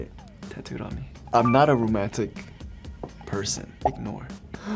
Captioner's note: beeps